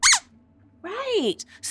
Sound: squeaks squeaking

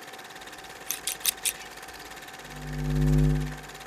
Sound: scissors cutting; light bulb humming

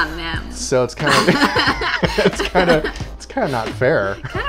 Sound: laughing

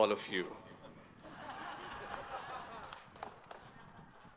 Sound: audience laughs

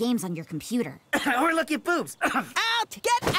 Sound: cough

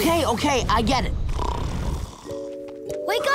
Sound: snoring

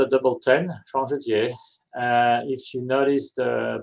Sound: non-english speech

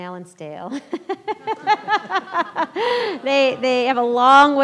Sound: laughs

